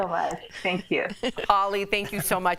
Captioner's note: laughter